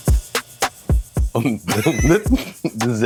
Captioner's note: laughter